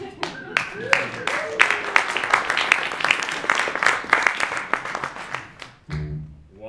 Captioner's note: applause